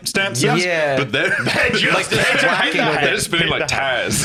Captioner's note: laughs